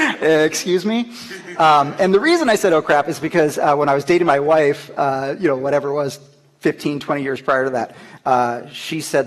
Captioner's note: laughter